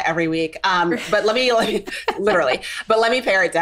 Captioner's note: both laughing